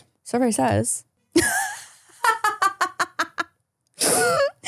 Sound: laughing

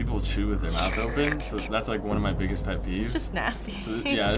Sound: slurping

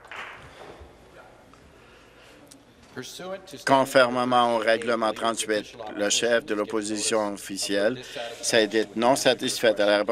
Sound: applause

